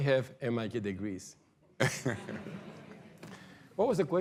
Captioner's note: laughter